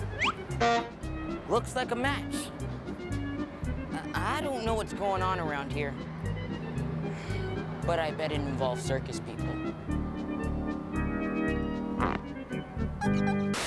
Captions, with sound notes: [ HORN HONKS ] LOOKS LIKE A MATCH. I DON'T KNOW WHAT'S GOING ON AROUND HERE... BUT I BET IT INVOLVES CIRCUS PEOPLE. [ SCRATCHING ]